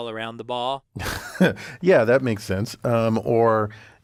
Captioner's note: laugh